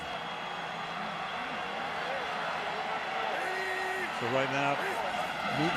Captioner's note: cheering